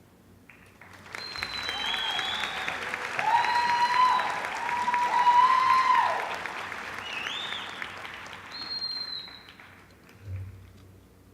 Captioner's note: applause